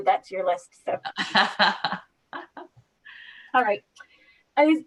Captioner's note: laughing